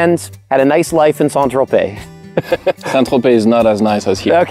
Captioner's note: laughs